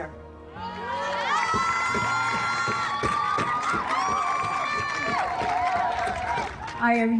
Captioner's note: group cheering; drums beating